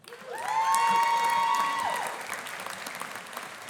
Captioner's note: audience applauding